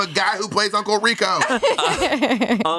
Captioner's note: everyone laughs